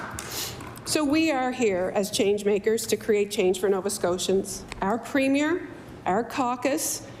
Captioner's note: applause